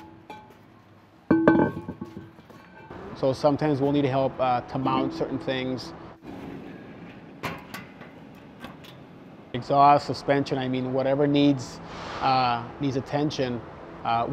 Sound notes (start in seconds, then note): 7.4 metal clanking